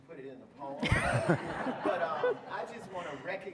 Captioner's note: audience laughing